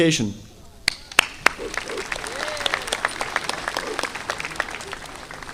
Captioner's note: audience applauding